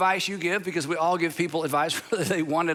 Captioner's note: chuckles